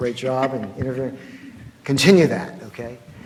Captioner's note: laughs